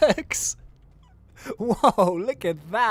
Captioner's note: laughs